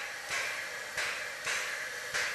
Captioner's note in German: Regelmäßiges Klopfen